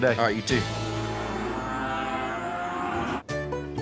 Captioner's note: cattle mooing